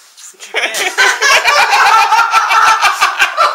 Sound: laughing

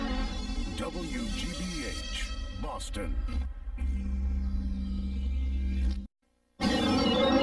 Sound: neon light zapping; synth music playing

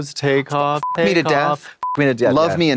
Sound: beep

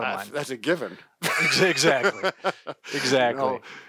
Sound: laughing

